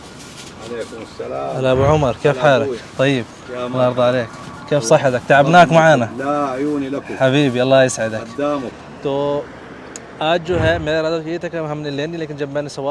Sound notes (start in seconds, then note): 1.5 talking in Arabic